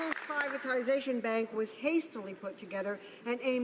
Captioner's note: some Applause